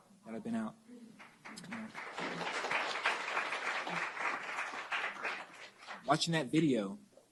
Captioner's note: applause